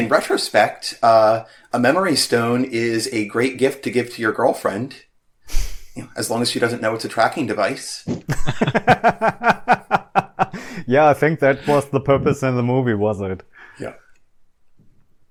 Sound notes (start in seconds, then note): 8.0 laughter